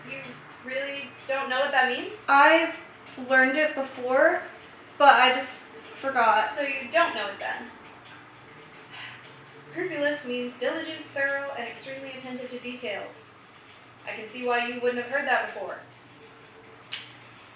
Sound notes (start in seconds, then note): 8.9 sigh